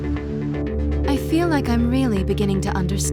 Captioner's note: voiceover